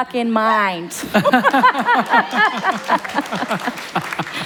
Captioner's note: applause